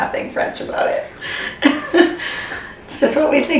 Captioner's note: laughing